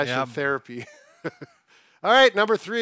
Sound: chuckles

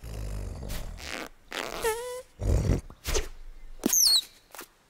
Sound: caterpillar farting; bird chirping

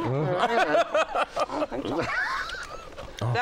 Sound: laughs

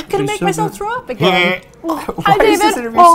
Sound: gags

